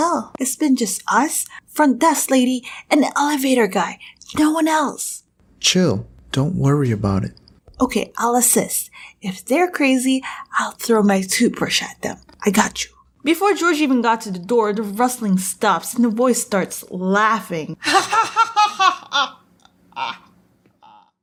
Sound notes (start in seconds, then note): 17.8 insert creepy laughing